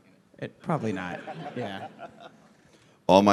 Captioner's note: laughter